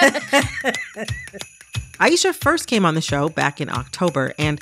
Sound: laughter

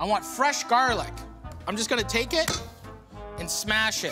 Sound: whack

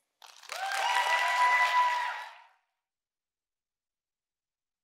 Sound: audience cheering

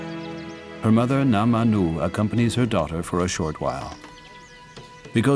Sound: speaking in foreign language

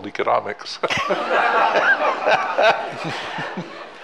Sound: all laughing

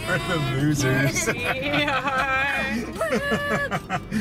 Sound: laughing

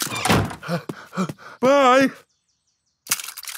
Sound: snorts; panting

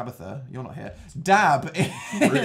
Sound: starts laughing

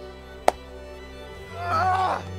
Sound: agonized groan

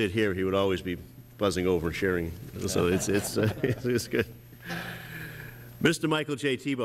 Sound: laughter

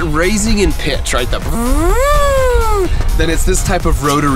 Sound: siren sound using mouth

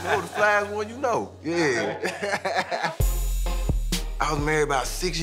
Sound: laughter; laughs

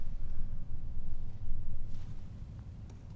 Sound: none

